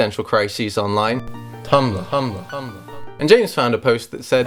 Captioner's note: echo